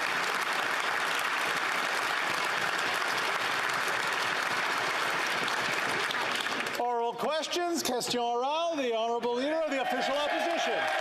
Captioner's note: some Applause